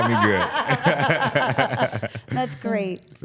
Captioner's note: all laughing